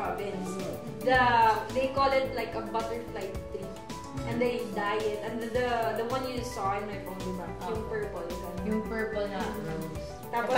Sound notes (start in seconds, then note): none